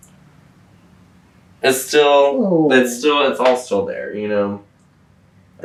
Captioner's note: mimics sad sound